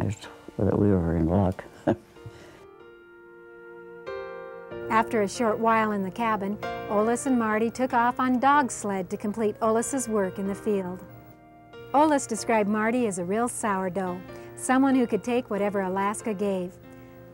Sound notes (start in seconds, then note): 1.7 laughs; 3.1 gentle music; 4.9 voiceover